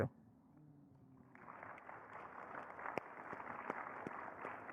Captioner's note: audience clapping